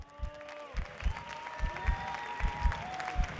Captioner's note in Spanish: Aplausos